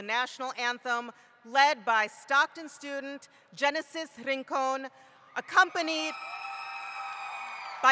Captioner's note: cheering